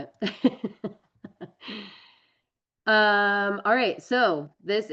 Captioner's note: laughs